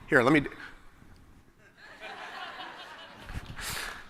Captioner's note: laughter